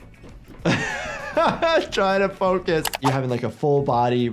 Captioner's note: laughs